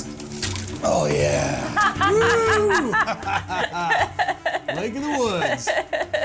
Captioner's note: laughs